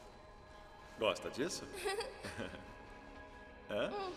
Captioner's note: man chuckling